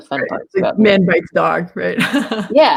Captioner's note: laughs